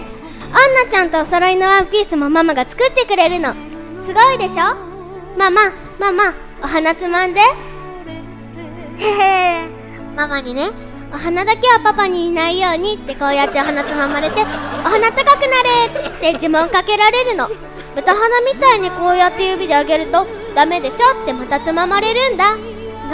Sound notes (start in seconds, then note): 9.0 giggles